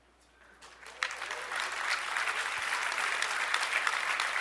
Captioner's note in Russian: аплодисменты